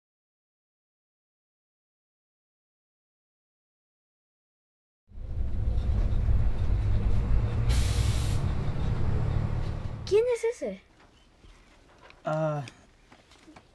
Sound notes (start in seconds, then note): 5.1 bus sounds